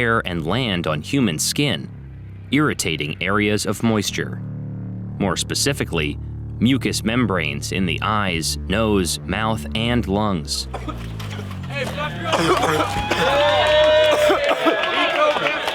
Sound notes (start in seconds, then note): 10.6 cadets cough; 13.1 crowd cheers